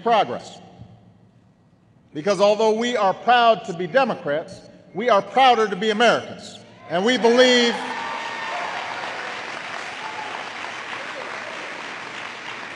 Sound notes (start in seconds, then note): 10.8 applause